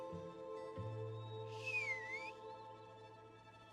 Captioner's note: whistles